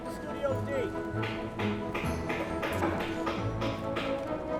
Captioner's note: hammering